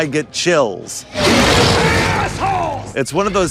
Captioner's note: Demogorgon growls